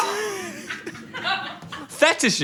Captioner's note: everyone laughing